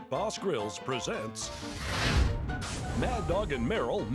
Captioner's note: flames sizzling